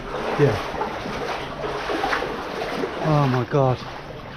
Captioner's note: water sloshing